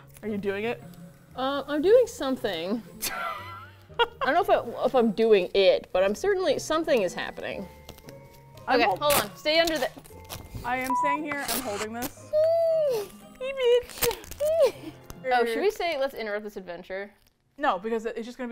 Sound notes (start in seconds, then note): 3.0 laughs; 9.9 tape rips